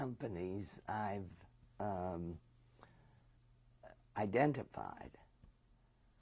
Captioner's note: pauses for 3 seconds